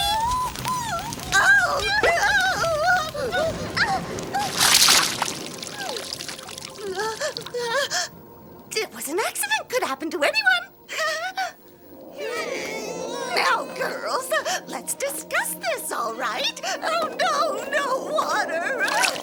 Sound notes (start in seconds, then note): 0.0 shrieking; 4.6 water splashing and dripping; 6.8 witch gasping; 11.0 giggling; 12.1 growling; 18.8 water splashing